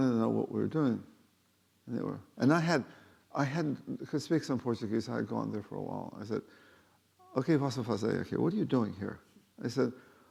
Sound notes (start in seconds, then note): 7.6 speaking Portuguese